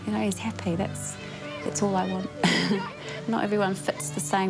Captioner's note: chuckles